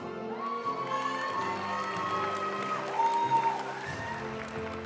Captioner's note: audience cheering and applauding; graduation music